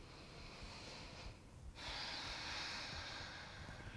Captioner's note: inhaling